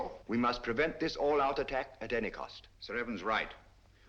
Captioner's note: none